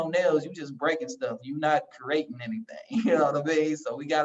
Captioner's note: laugh